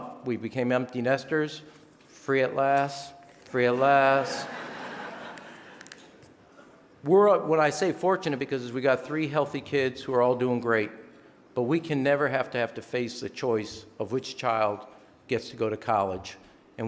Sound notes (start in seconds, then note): 3.7 audience laughing